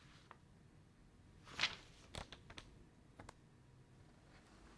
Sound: pages rustling

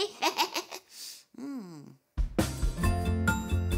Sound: chuckling; lively music

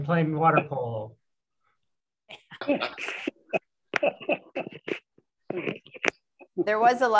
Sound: laughter

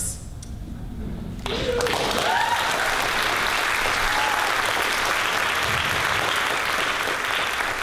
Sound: audience cheers and applause

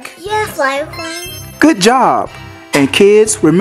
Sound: magic sound chimes

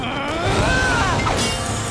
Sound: groaning

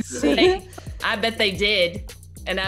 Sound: laugh

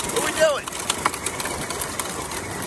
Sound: engine buzzes

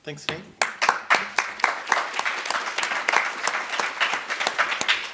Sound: applauds

